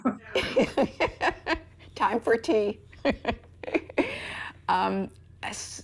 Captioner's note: chuckles